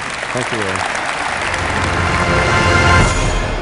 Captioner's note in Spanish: Aplausos